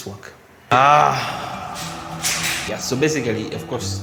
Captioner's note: grunts in frustration